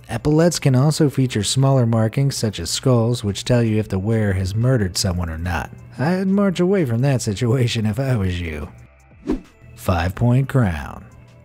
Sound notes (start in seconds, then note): 9.2 air whooshing